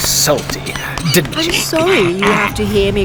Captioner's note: sounds of patting and muffled choking